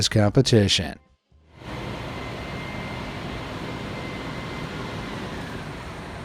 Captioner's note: truck engine whirring